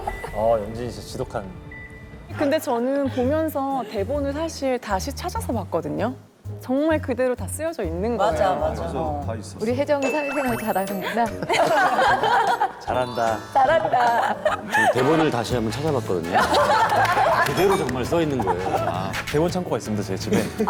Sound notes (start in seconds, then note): 16.3 laughing